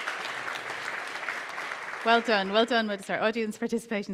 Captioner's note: applause